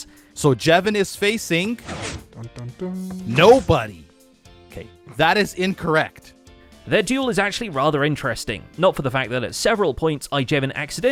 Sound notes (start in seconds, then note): 1.2 quietly; 1.9 pistons move